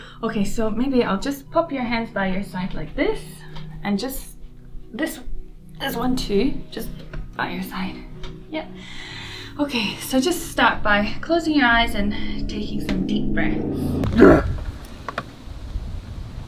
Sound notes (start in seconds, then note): 14.0 grunting heavily